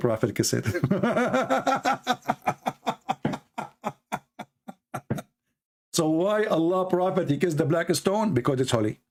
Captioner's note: Ketawa